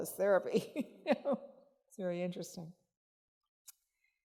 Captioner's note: chuckling